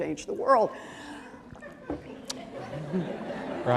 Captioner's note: laughter